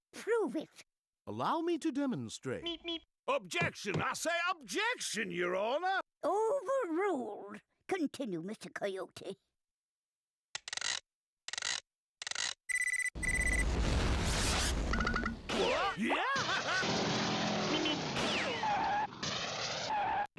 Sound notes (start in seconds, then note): 10.5 whirring; 12.6 beeping; 18.6 breaks screeching